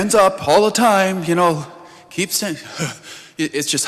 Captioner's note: sighs